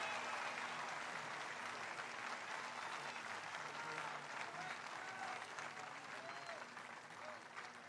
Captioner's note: applause